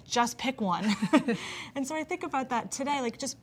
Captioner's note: both laughing